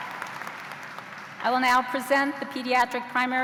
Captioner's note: cheers and applause